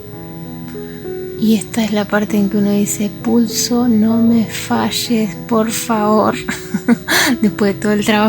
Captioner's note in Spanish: risas